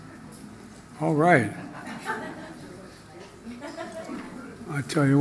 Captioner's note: laughter